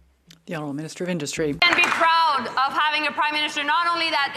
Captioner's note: some Applause